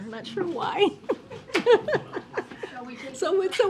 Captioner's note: laughs